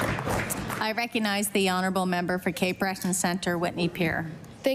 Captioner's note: applause